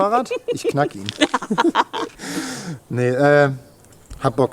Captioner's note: laughter